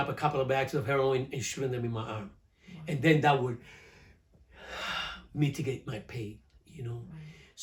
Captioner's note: deep breath